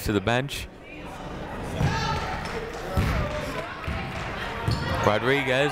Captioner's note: people shouting in the crowd